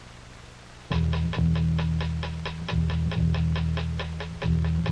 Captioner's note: ticking